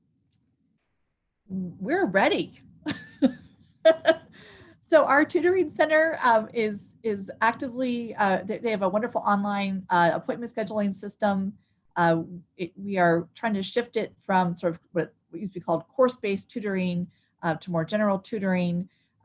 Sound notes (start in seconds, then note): 3.8 �laughter�